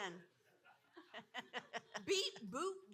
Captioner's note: audience laughing